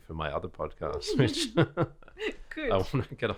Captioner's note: laughs